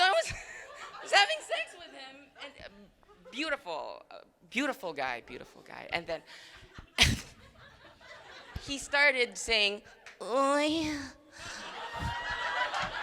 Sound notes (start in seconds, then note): 6.5 crowd laughing; 11.4 crowd laughing and cheering